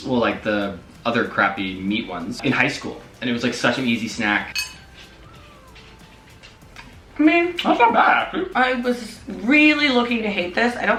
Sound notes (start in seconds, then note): none